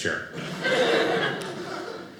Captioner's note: audience laughing